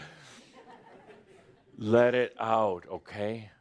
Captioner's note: some laughter